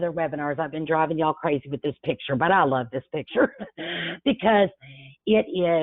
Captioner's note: chuckles